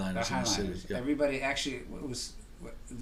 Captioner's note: voiceover